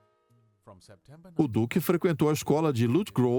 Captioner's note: voiceover